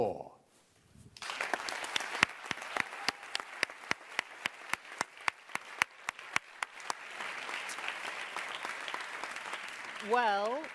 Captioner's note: applause